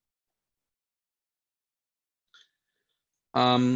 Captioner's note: silence